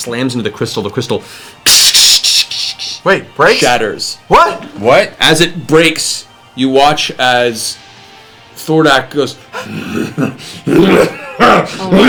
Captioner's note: crazed laughter